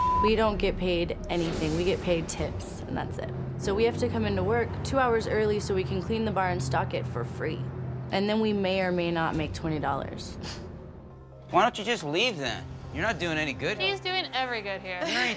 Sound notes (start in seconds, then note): 10.1 scoffs